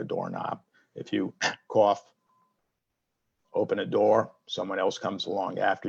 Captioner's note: coughs